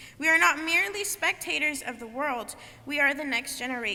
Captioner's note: none